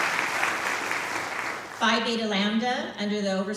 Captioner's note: applause